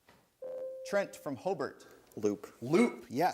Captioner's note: bell rings